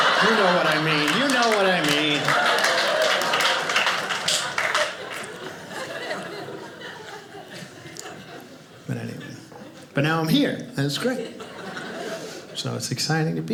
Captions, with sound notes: You know what I mean? You know what I mean. (audience applauding) But now I'm here and it's great. So it's exciting to be here.